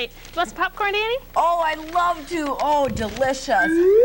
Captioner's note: slide whistle